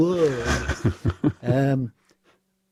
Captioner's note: laughter